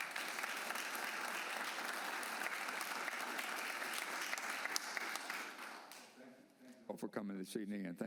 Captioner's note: applause